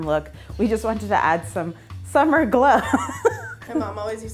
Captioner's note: laughs